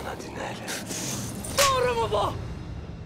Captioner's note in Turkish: Tokat sesi